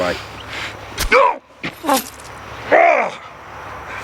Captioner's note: Stabbing sound, Scott grunts